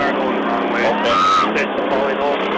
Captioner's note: screams